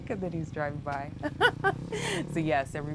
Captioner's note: laughs